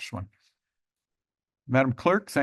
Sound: pause

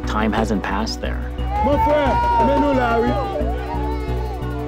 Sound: baby crying

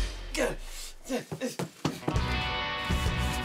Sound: man grunts; suspenseful music

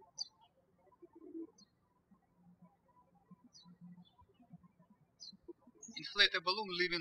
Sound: birds chirping

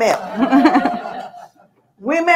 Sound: audience laughing

